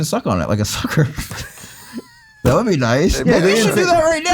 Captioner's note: everyone laughs